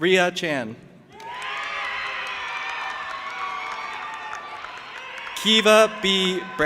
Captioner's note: audience applauding and cheering